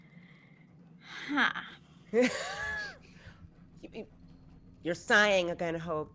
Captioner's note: sighs; laughs